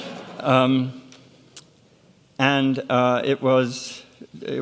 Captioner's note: audience laughs